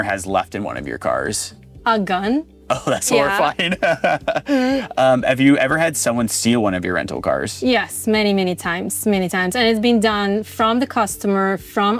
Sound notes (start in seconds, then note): 3.1 laughs